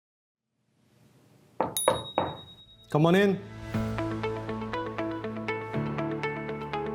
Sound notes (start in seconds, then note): 1.6 knocking; 1.7 bell ringing; 2.9 upbeat music